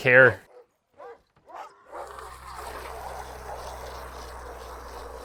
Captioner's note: dogs barking